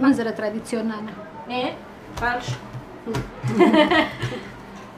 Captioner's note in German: lacht